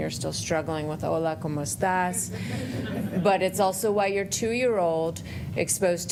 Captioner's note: laughter